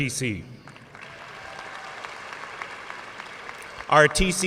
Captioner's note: audience cheering and applauding